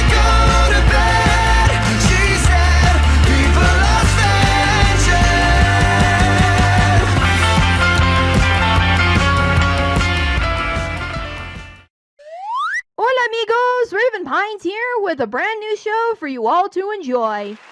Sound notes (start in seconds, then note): 12.3 slide Whistle Sound Effect